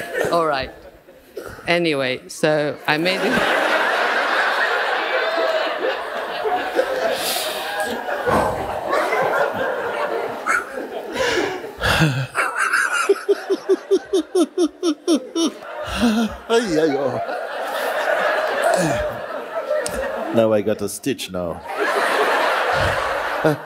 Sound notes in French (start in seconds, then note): 3.5 le fou rire reprend; 21.6 rires